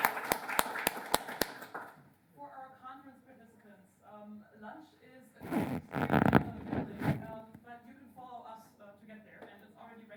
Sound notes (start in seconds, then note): 2.8 voiceover